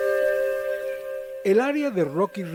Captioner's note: music changes; birds' chirping noises